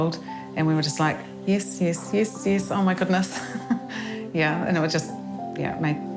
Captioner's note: laughs